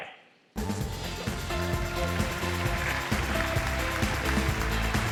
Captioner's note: applause